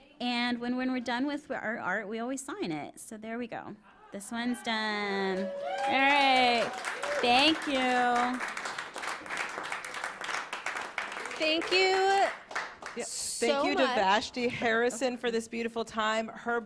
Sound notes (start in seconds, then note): 8.4 applause